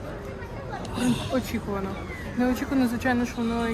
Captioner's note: The sounds of Polish people drinking beer